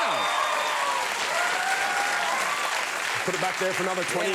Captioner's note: audience cheering and clapping